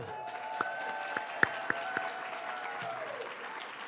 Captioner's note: audience clapping